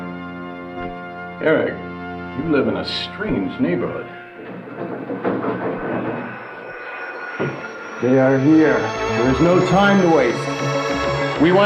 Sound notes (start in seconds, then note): 6.2 mechanical buzzing